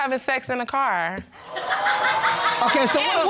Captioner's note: laughter